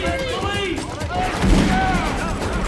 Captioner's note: gunshot